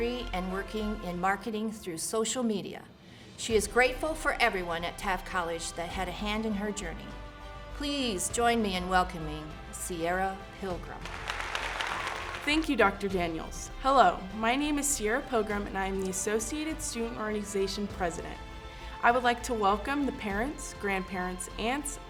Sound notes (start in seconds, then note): 11.0 applause